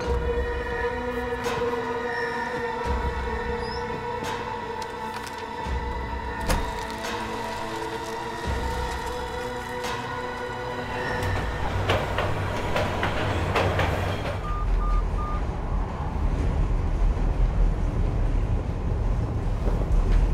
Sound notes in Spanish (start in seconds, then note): 14.4 Pitido